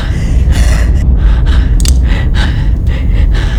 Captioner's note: gun cocks; heavy breathing